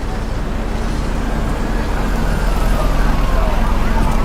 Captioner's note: sirens